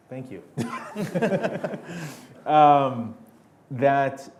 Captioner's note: laughing